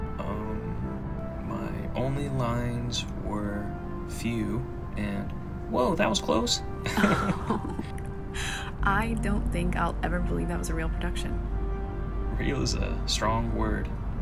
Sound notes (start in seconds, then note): 6.8 both chuckle